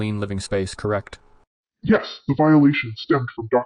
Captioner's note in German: verzerrt